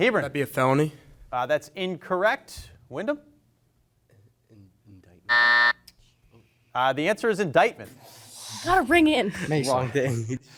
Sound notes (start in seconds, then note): 5.3 buzzer rings